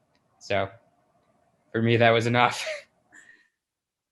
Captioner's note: chuckles